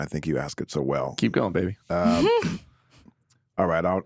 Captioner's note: chuckles